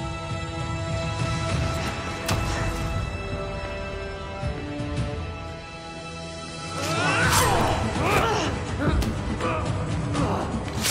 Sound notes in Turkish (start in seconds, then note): 6.8 Kılıç Sesleri; 9.1 İnleme Sesleri